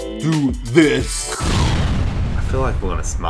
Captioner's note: explosion